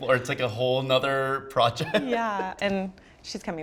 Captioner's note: laughs